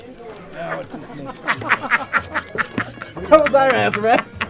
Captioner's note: laughs